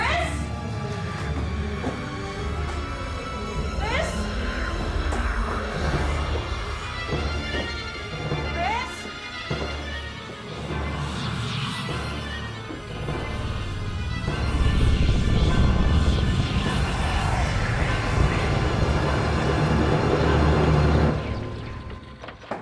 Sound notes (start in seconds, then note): 5.3 ominous whispering; 10.1 ominous whispering; 17.8 moves into dark tense music